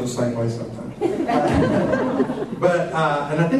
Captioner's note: laughter